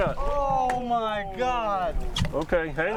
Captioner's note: groaning